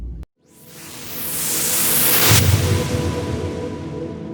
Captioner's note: whooshing